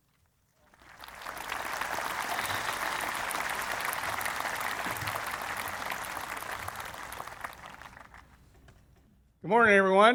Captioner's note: applause